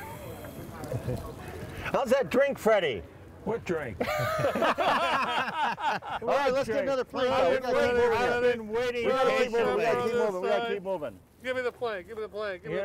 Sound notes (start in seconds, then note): 4.0 all laughing